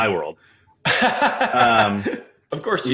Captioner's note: laughing